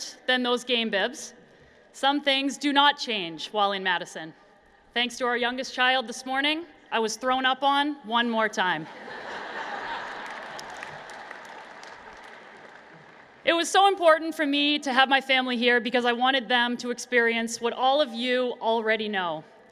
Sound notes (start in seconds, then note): 8.9 laughter and Applause